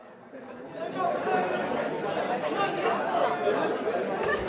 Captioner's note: people chattering